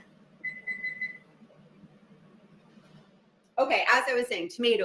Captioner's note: oven beeps